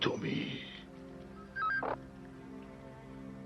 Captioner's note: musical ring